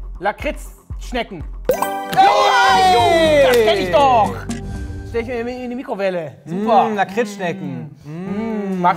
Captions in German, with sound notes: Lakritzschnecken. (Jubel) Steck ich immer in die Mikrowelle, super. Mmh, Lakritzschnecken.